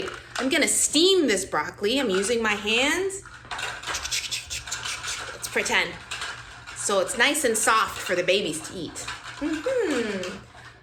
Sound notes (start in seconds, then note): 2.8 cooking noises